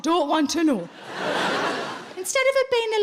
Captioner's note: audience laughing